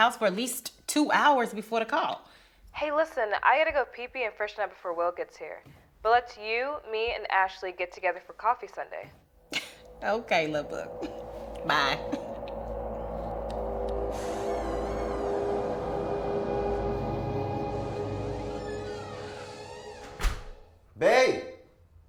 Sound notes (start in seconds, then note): 14.7 door creaks; 14.7 tense ominous music; 21.0 door thuds